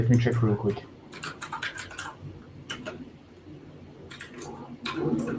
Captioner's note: keyboard clacks